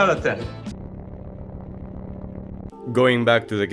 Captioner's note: Static